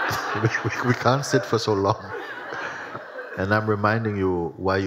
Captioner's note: laughter